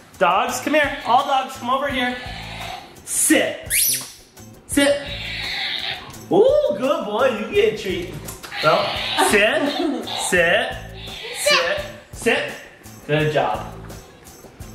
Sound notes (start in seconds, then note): 4.9 squeaking sound; 8.8 soft music